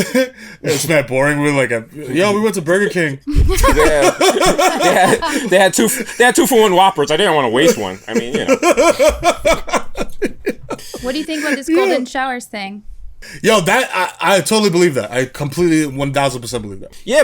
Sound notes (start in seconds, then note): 3.2 laughs; 8.8 laughs